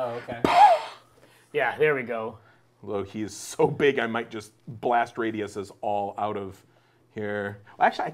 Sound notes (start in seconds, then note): 0.4 puffing